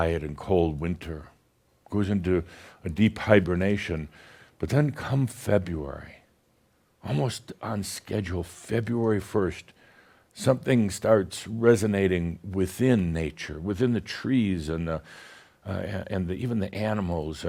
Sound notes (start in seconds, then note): none